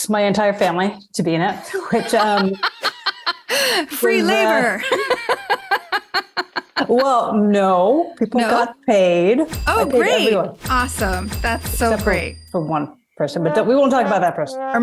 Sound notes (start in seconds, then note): 1.5 laughs